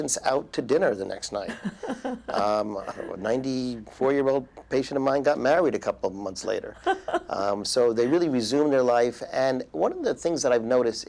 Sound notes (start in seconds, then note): 1.5 laughs